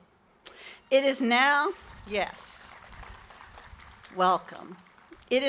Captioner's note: applause